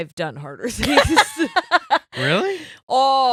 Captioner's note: laughing